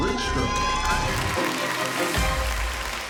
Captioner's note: cheers and applause